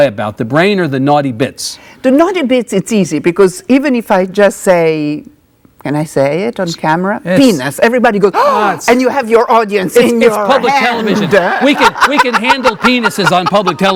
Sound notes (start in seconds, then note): 8.4 gasps; 10.4 laughing